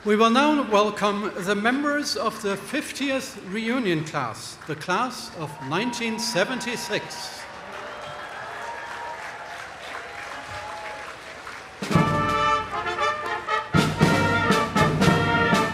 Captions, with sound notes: We will now welcome the members of the 50th reunion class, the Class of 1976. (audience applauding) (stately orchestral music)